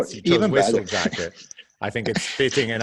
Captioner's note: laughs